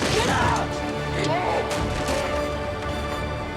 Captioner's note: shouts